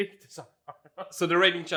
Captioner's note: chuckles